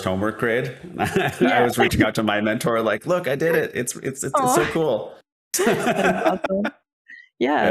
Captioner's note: laughing